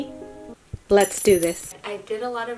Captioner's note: coins clinking